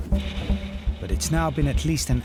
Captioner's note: water spraying